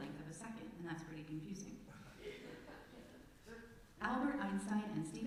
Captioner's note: laughter from congregation